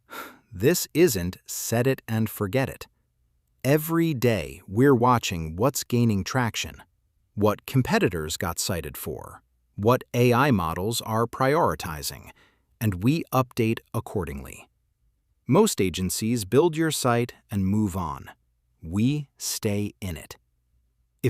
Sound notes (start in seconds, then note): 0.0 exhales sharply